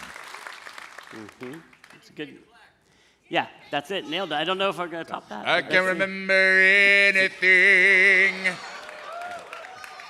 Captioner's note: applause